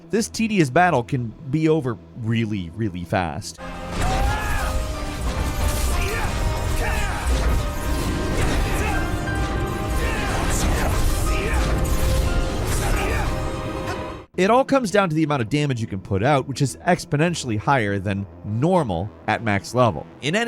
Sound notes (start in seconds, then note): 3.9 electric warbling; 3.9 player screams